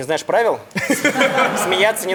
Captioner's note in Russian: Смех